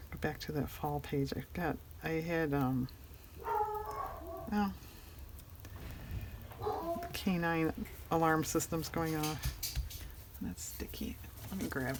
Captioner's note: dogs barking